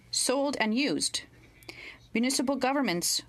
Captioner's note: speaking french